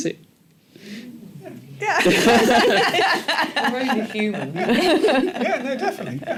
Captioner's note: laughter